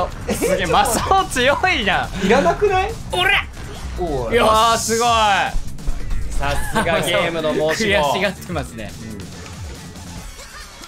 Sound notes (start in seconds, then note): 5.5 slight smacking*!